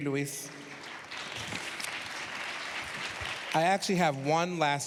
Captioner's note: applause